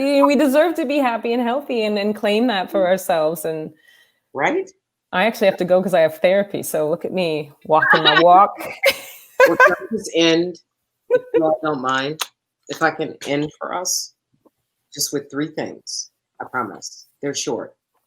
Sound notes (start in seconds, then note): 8.6 laughter